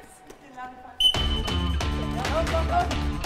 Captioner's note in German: Pfiff